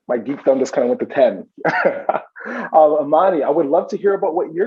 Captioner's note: chuckles